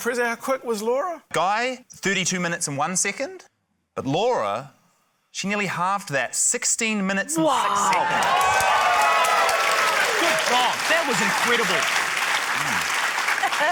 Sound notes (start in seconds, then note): 7.5 cheering, applause